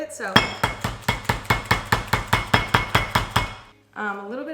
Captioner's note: bangs counter